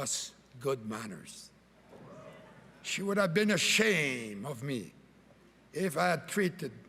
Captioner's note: cheering and Applause